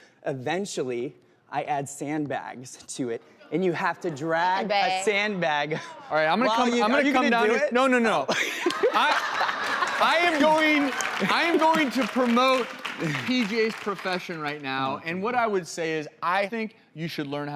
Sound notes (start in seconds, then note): 8.4 audience laughs